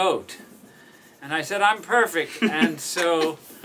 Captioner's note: laughs